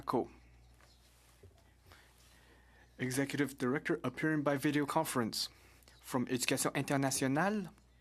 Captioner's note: speaking French